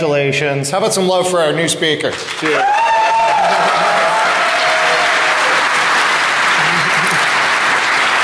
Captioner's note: applause